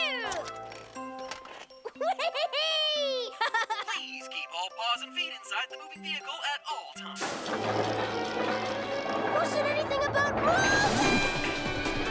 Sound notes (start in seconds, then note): 1.8 giddy laugh